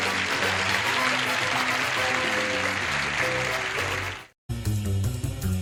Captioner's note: applause